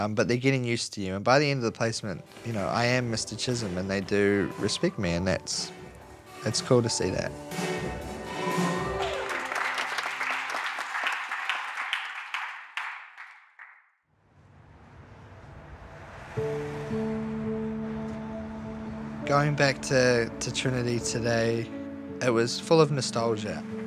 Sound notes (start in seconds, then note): 8.2 music stops, applause; 16.3 gentle music